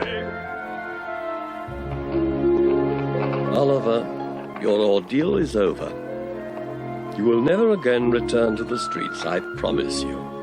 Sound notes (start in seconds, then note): 0.2 pleasant orchestral music; 1.7 fire crackling